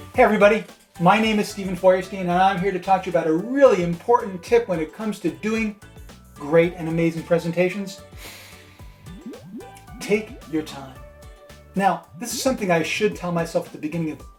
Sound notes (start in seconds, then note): 8.1 deep breath